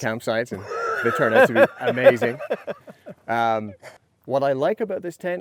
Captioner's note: laughing